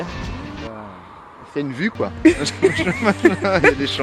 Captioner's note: french scornful part 2